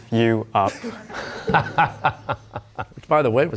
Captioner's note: laughter